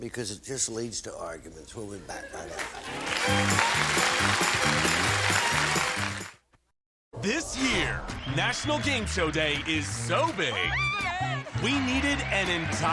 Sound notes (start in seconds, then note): 2.6 applause